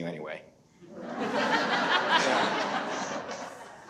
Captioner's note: audience laughs